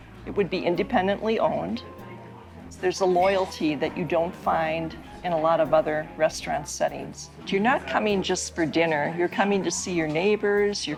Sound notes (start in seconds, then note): none